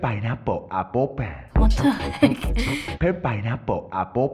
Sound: laughing

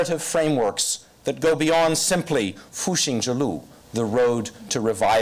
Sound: foreign language

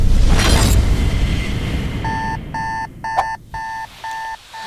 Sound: alarm clock

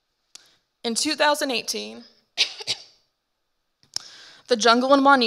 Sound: coughs

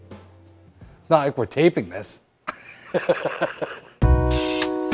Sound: laughs

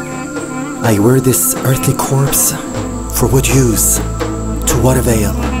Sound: narrator recites poem

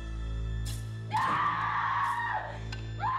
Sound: screaming

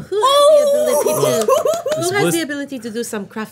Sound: giggling

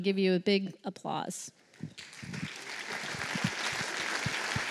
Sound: applause

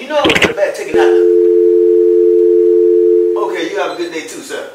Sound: phone hangs up

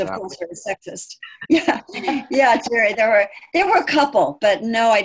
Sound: laughing

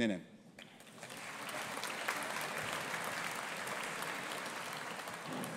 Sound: audience applauding

